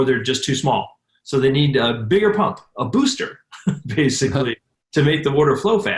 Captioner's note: laughs